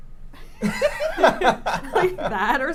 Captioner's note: everyone laughs